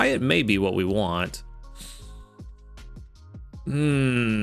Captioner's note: sighs